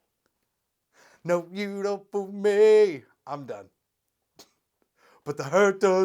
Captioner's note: speaks; sings